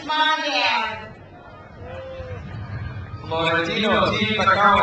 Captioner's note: crowd cheers